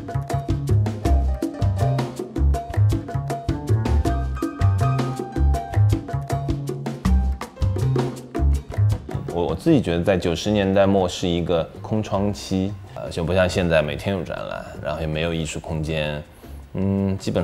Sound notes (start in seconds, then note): 9.3 Mandarin